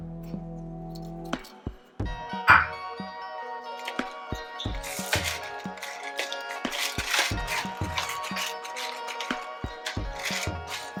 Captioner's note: ingredients clatter, pepper grinds